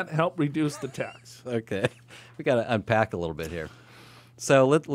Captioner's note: laughs